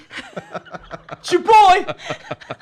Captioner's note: laughs